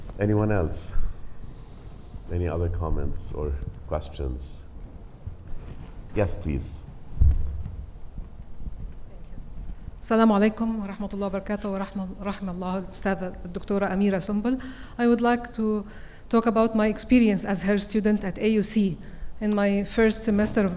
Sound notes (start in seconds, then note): 10.3 audience member speaking Arabic